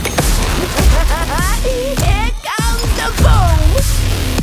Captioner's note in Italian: risata